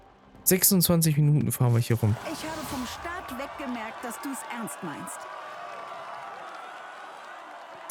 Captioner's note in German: jubel